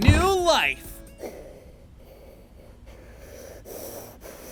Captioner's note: creepy breathing